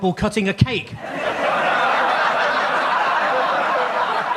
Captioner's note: audience laughs